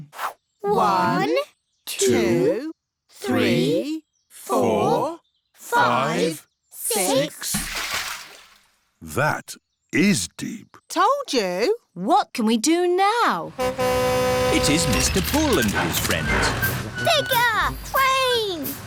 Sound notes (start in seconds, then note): 7.4 splash; 13.5 horn honks